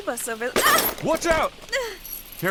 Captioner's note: yelps